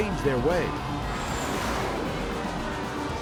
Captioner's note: audience shouts; upbeat music